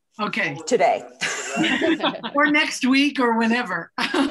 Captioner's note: laughter